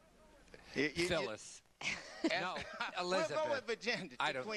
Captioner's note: laughter